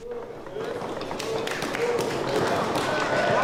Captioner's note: applause